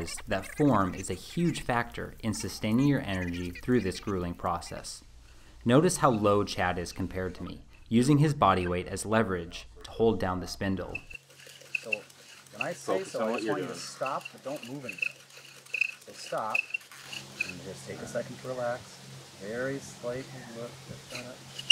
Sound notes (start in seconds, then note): 12.5 background talking